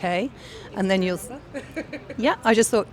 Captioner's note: laughs